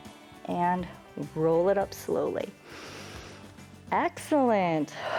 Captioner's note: inhales